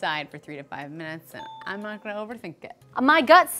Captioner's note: ding